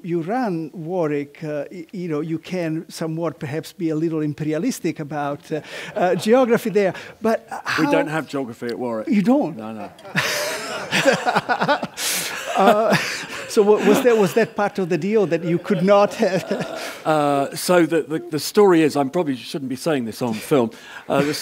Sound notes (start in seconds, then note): 15.2 laugh